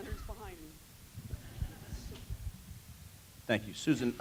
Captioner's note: laugh